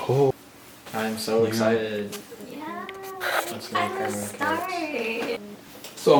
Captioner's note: enthusiastic excited sounds